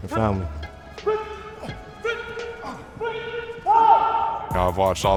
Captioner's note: coach yelling